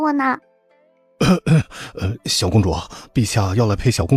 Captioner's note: ahem